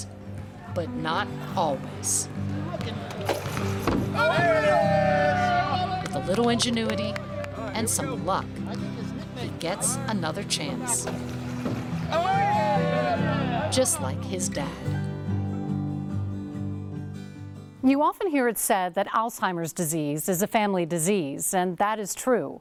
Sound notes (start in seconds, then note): 4.1 cheering; 12.0 cheering